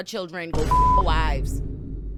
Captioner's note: beep